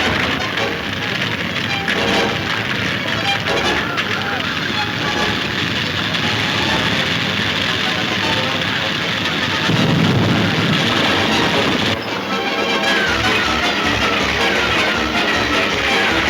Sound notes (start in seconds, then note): 0.0 exciting music; 8.7 hooves thundering